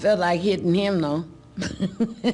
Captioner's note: laughter